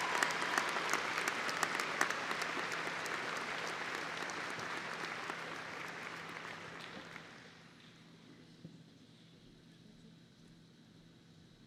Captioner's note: applause